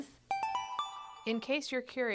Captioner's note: chime